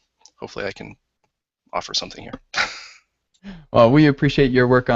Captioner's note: laughs